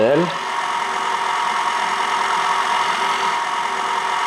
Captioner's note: whirring continues